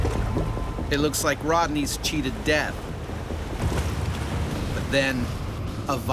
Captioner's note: voiceover